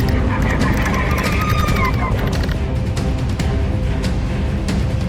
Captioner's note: alien shrieking